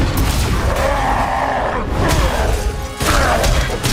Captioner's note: snarling